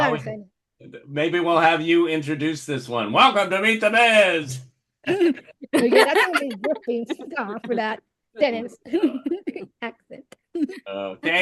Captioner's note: laughter